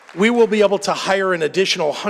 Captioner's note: applause